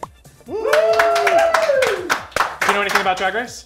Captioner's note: cheering